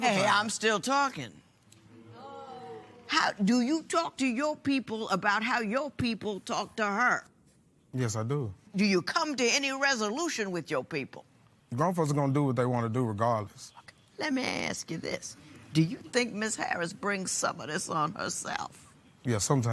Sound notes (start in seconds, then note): 2.2 audience oh's